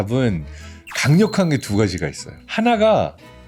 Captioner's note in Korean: 강조되는 효과음